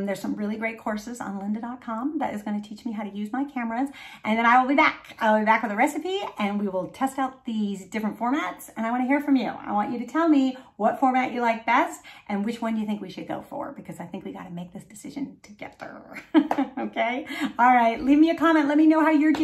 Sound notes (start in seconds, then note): 16.2 chuckling